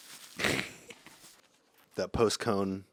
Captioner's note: laughs